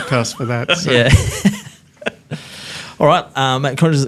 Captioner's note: laughs